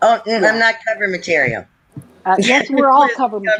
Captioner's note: laughs; laughs